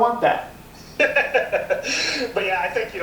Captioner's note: laughs